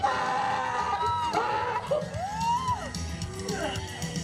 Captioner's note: screams